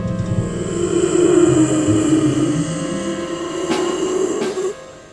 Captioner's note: breathing heavily